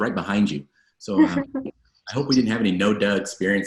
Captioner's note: laughs